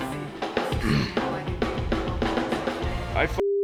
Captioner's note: clears throat